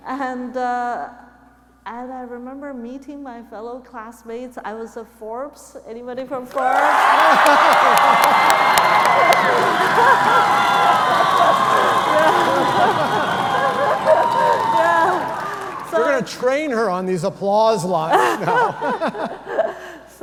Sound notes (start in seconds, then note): 7.8 audience cheering